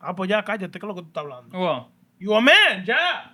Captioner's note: speaking Spanish